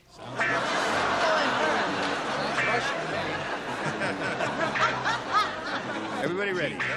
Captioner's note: laughter